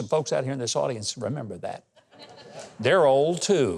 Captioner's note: audience laughing